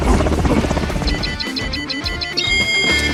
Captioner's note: beeping